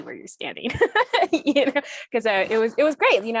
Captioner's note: laughs